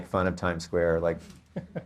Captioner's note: laughs